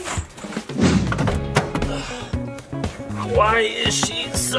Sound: whoosh

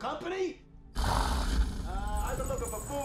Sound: grrr

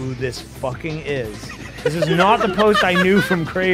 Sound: laughs

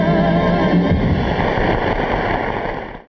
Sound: audience applauding

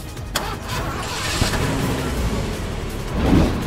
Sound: engine Starts

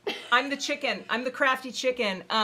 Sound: laughing

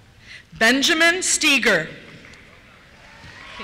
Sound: cheers

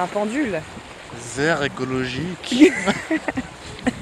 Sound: german

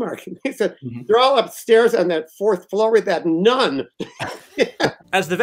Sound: laughter

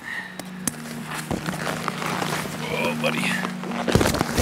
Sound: feet and packs crunching

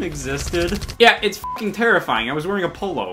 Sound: beep

